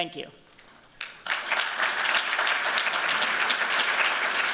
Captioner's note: applause